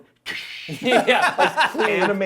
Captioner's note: makes explosion sound